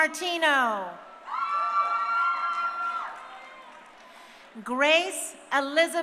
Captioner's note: crowd cheering